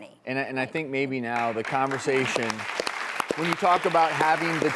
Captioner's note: audience claps